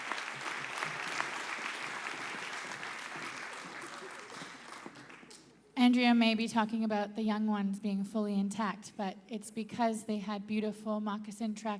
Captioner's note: applause